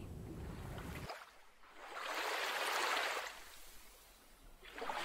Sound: sound of waves lapping

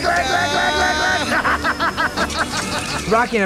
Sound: laughing

